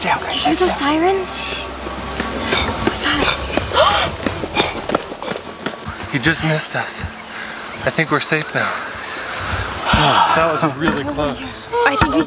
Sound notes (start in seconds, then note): 3.0 bandit panting heavily; 3.7 girl gasps; 8.6 family exhales